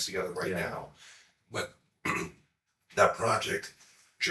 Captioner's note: throat clearing